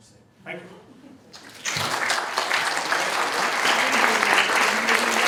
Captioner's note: applause